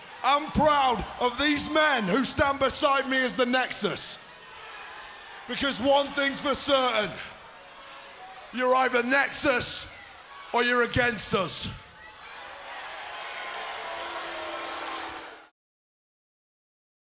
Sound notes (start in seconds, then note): 12.1 crowd booing